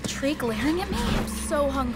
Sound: loud whooshing

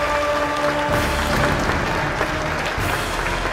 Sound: applause

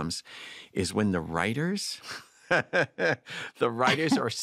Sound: chuckles

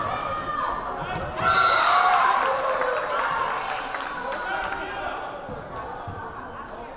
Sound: crowd cheering; whistle blaring

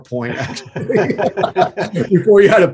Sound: both laughing

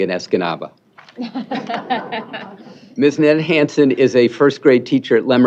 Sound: laughter

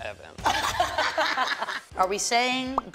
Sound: all laugh

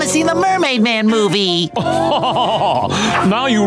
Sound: laughing

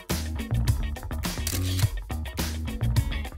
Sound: funky music; camera click; funky music

